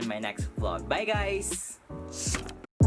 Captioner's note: woosh!